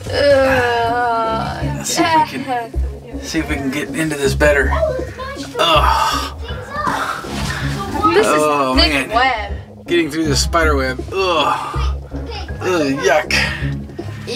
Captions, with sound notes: and see if we can, see if we can get into this better. Oh man, getting through this spider web (groans) Ow yuck!